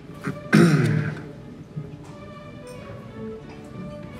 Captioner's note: Carl clears throat